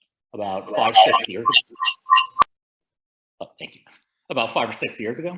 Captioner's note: audio glitches